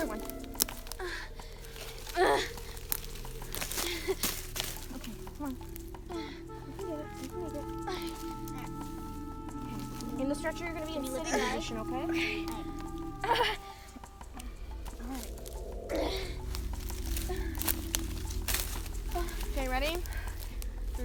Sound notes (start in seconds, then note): 1.4 victim grunts; 1.9 sticks crackling; 14.3 grunts; 17.6 sticks crackle